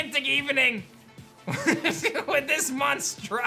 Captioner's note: laughs